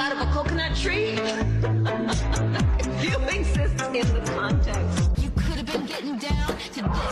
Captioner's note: laughter